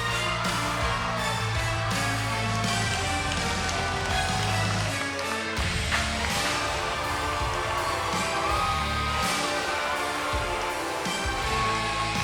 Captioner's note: cheers and applause